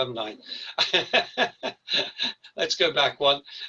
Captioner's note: laughs